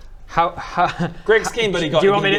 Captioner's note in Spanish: ríe